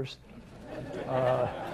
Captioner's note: laughter